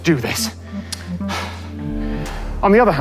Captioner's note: pants